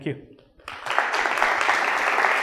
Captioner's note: applause